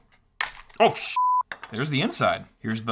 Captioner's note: beep